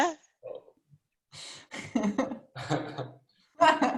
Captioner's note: chuckles